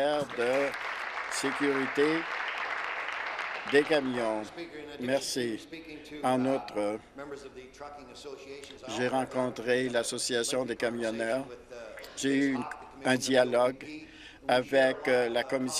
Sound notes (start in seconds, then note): 2.3 applause